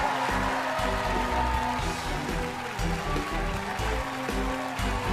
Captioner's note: cheers and applause; dramatic music